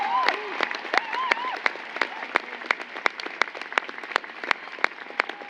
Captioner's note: applause